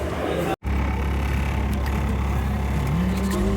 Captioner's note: street noise